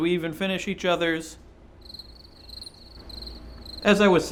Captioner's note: crickets